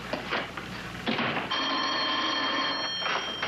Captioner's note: phone ringing